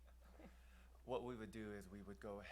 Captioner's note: laughs